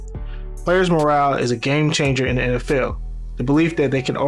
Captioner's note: voiceover